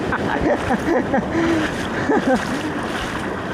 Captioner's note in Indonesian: tertawa